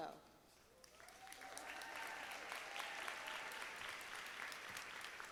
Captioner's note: audience applauding